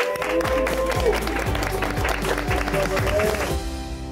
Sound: all applauding

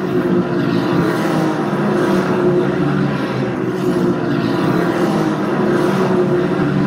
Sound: loud race car sounds

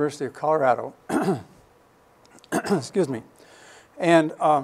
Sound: clears throat

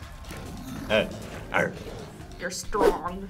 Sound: grunts

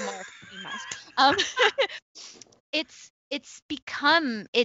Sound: both laughing

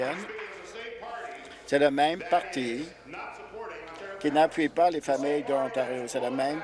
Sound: applause

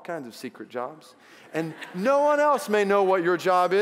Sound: congregation laughs

